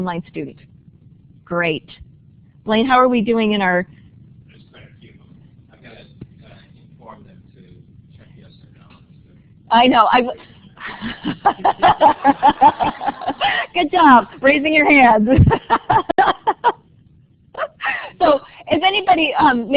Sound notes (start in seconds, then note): 10.8 laughing